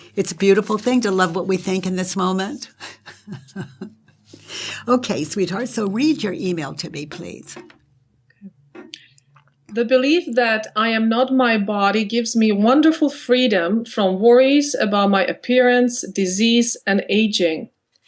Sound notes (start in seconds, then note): 2.7 chuckles